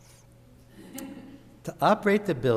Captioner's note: audience laughs